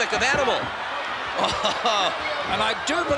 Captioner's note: laugh